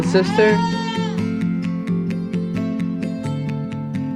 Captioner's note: toddler cries